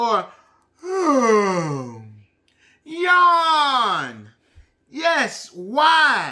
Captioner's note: yawning